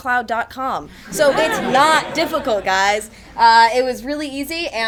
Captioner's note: attendees laugh